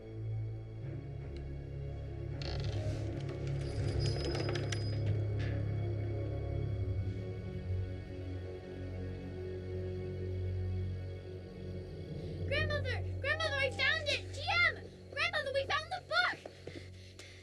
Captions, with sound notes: (door creaking) - Grandmother, Grandmother, I found it! GM, Grandmother, we found the book!